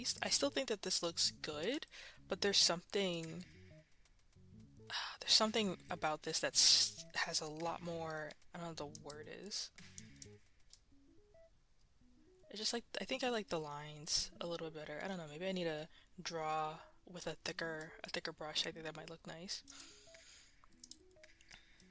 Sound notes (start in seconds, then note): 9.7 mouse Clicking; 19.6 mouse Clicking and Breathing